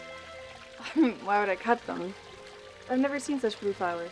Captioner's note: chuckles